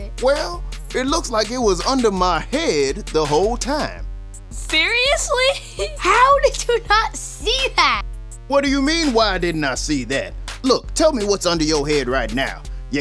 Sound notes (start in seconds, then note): 5.4 laughing